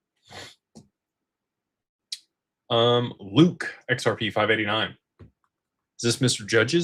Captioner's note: snorts